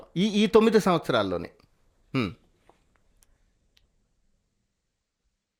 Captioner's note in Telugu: గొంతు సవరించుకోవడం